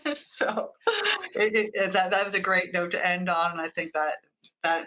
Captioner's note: laughs